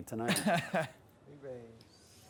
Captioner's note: laughs